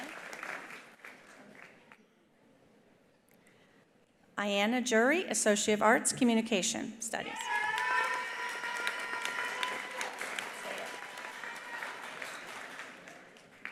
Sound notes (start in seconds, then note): 0.0 attendees applauding; 0.0 attendees cheering; 7.3 attendees cheering; 7.4 attendees applauding